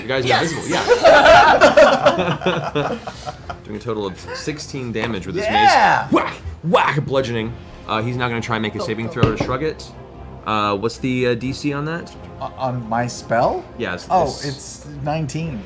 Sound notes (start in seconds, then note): 0.4 laughter; 5.8 whack whack